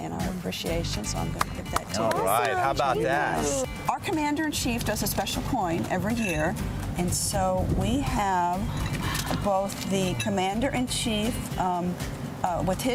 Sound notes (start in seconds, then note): 1.3 clapping